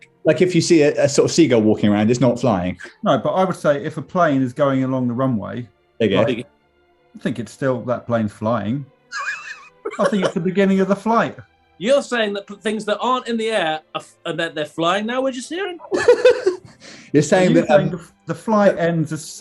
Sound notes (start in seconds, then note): 9.1 laughing; 15.8 giggling